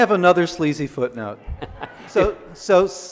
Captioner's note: audience laughs